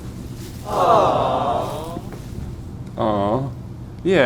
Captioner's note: audience awes